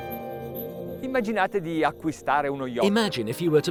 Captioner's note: speaks foreign language